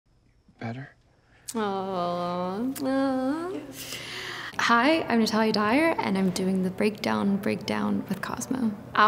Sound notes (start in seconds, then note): 1.6 Natalia sighs affectionately